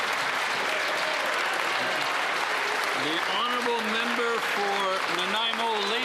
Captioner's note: cheering and Applause